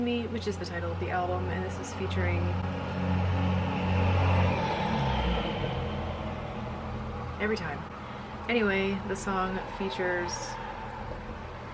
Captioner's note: truck noises